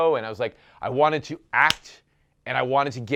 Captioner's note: claps hands